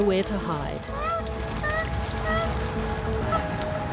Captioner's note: koala yelps